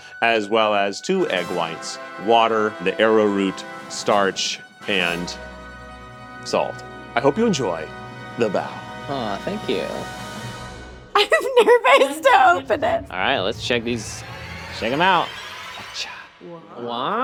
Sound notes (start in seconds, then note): 11.2 laughing; 15.4 ominous music